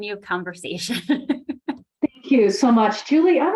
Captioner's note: laughs